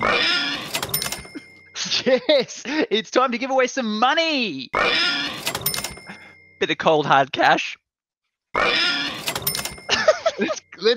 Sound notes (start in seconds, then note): 0.0 cash register and pig screeching; 4.7 cash register and pig screeching; 8.6 cash register and pig screeching